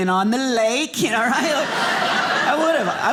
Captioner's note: audience laughing